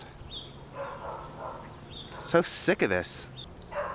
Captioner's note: Sasha barking; distant dog barking